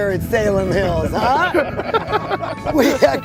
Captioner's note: laughing